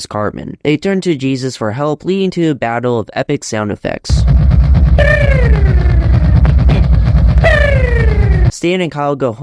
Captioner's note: stupid sound effect